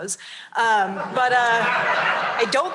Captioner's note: laughter